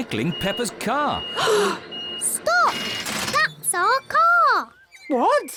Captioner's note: all gasp